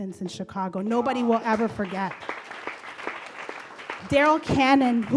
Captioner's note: audience claps